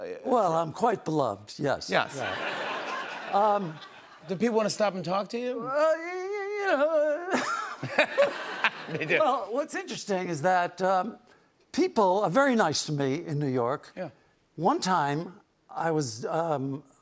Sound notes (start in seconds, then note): 7.2 laughter